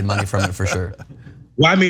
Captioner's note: laugh